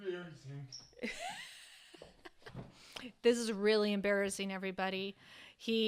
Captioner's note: chuckles